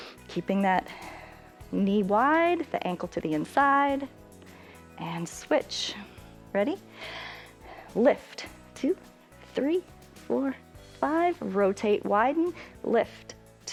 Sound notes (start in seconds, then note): 6.8 inhales